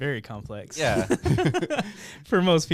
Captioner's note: laughing